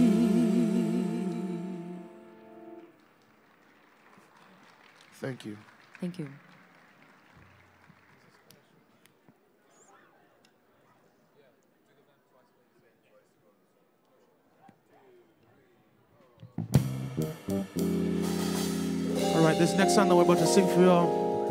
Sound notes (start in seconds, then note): 5.4 applause